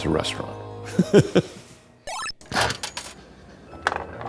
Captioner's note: laughing